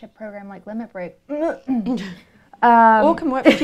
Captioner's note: laughter